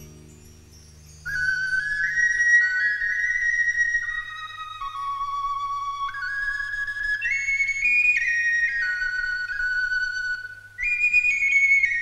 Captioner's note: bird sings